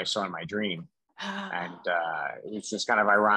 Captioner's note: sighs